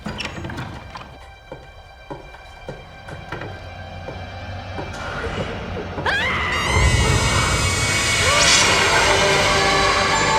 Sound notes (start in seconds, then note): 6.0 screaming